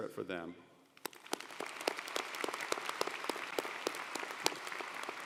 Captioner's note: audience applauding